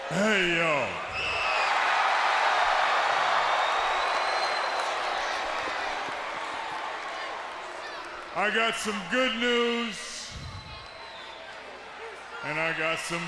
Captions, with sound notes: Hey, yo. (fans cheering) I got some good news and I got some bad news.